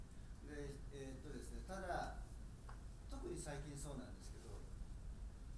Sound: speaking in foreign language

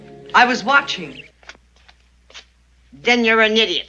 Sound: feet shuffling

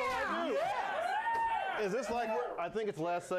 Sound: audience cheers

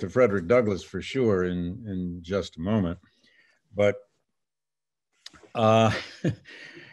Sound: laughs

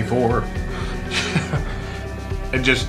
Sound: man laughs

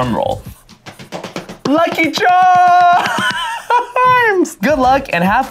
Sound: slapping stomach; laughing

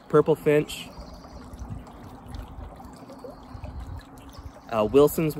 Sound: water trickling

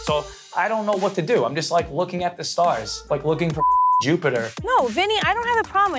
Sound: beep

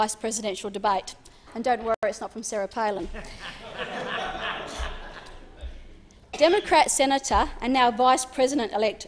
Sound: laughter

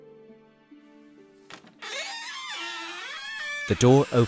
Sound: door opening sound

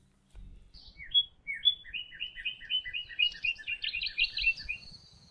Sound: birds chirping

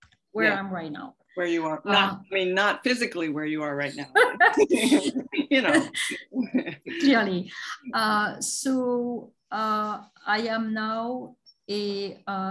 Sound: laughs

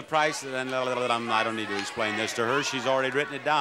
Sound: Bob burbles

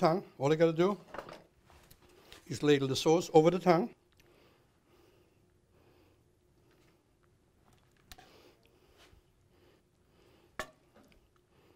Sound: silence

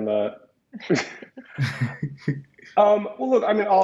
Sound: laugh; laughs

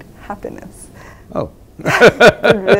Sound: laughs

